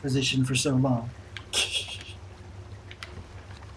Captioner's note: laughs softly